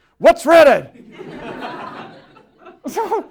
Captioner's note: laughter